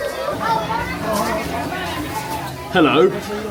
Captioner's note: people chatter